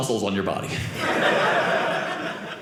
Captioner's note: audience laughing